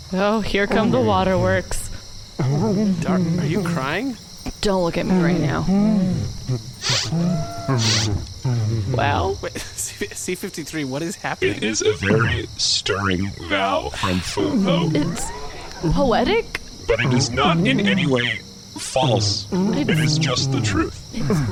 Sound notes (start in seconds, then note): 0.0 Frooho neighs his heartfelt, touching vows; 7.7 C-53 sniffles; 10.9 voice wavering from emotion